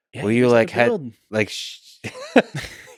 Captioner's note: Lex laughs